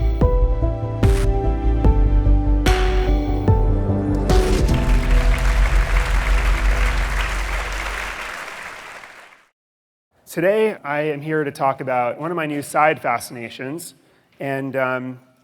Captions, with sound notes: (audience applauding) Today I am here to talk about one of my new side fascinations.